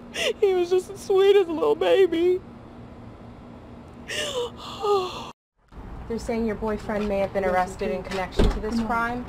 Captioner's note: gasp